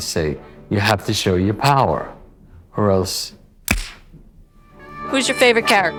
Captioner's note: smack